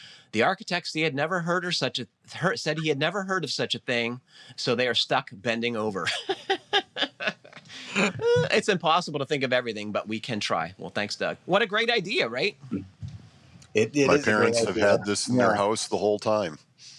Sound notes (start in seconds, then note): 6.0 laughs